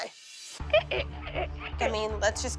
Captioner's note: squeaking